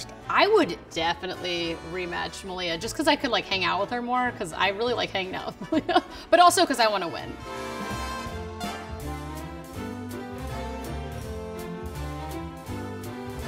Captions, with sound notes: - I would definitely rematch Malia just 'cause I could like hang out with her more 'cause I really like hanging out (laughs), but also 'cause I wanna win. (lighthearted music)